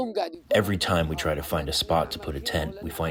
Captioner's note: through translator